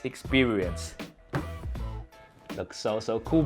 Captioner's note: slaps box